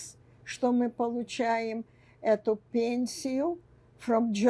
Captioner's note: none